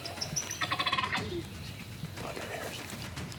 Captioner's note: turkey calls out